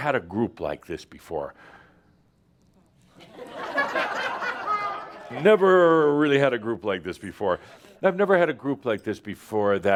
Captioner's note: laughter